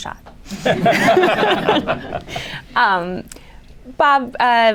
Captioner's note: laughter